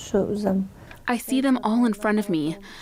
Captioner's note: speaking foreign language